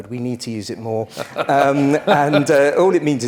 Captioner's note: laugh